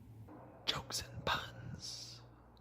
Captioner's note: whispers